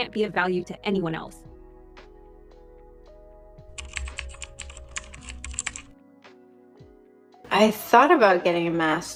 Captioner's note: pause